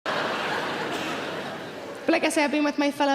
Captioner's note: audience laughs